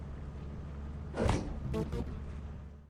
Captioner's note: door Closes